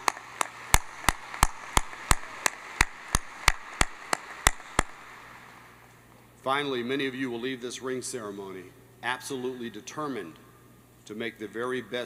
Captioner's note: applause